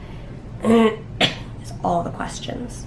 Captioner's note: clearing throat